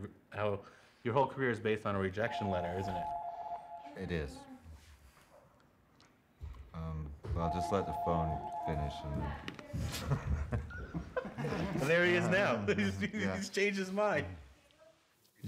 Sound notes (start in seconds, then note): 2.2 phone ringing; 9.9 laughing